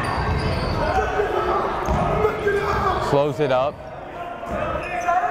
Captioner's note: yelling